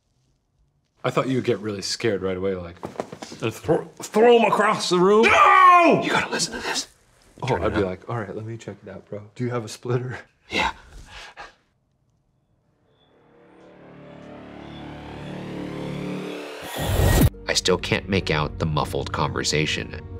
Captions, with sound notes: - I thought you would get really scared right away, like. Throw 'em across the room. (yells) - You gotta listen to this. - Oh, I'd be like, all right, let me check it out, bro. Do you have a splitter? - Yeah. (soft intense music) "I still can't make out the muffled conversation,